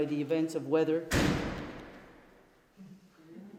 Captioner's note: door slams